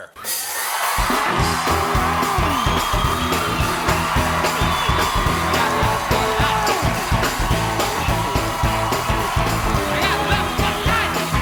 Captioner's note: cheers and applause